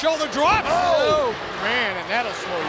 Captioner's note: audience chanting